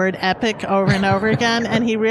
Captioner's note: laughs